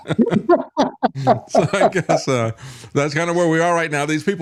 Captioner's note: laughing